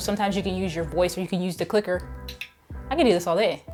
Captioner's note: clicks clicker